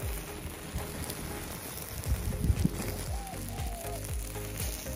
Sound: intense sizzling

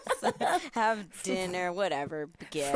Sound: both laughing; chuckling

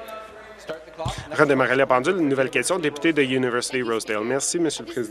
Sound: conversation din

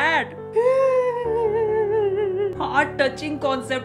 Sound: intense sobbing and crying

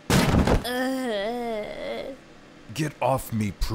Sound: crashing

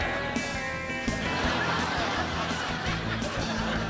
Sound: laughter

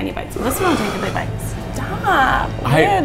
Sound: burps

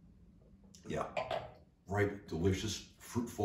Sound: glass taps

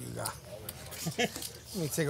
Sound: laughing

